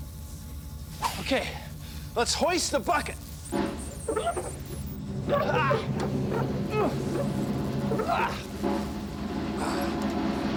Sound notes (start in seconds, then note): 5.2 grunting; 7.9 drumroll